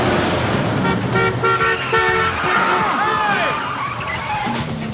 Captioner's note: horn blaring